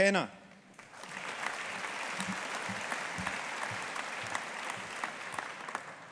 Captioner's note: audience applauding